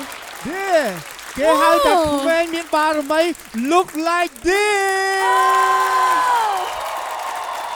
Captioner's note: audience cheers